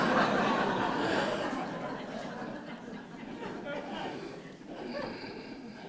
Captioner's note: laughter